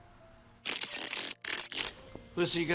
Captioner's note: camera shutter clicking